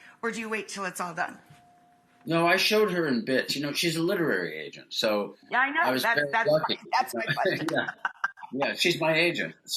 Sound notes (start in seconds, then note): 6.4 laughs